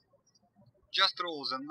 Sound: birds chirping

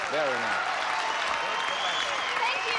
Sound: audience cheering

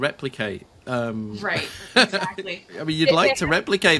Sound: laughs

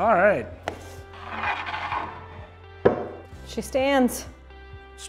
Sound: wood scraping

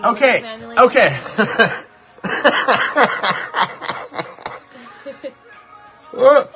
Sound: laughing

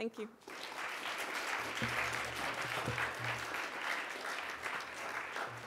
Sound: applause

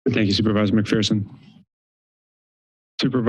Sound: silence

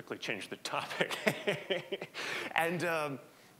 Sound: laughing

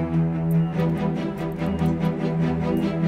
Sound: monitor beeping

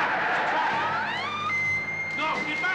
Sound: Molly screams

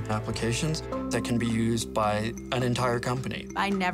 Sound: none

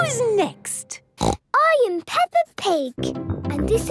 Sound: snorts

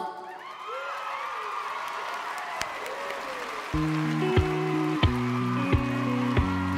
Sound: audience cheering; audience clapping; light music

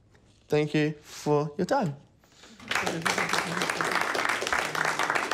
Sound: applause

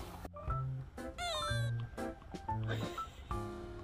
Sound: crying

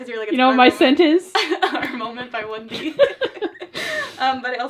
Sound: both laugh

